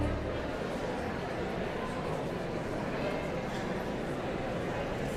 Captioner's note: audience chattering continues